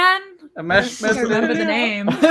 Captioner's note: all laughing